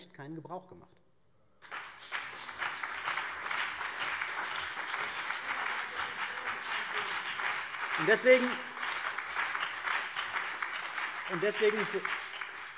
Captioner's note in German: Beifall CDU und BÜNDNIS 90/DIE GRÜNEN